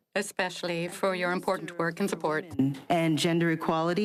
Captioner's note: speaking French